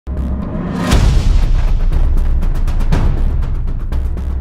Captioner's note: sounds of an Explosion